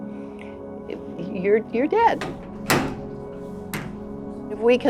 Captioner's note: door slams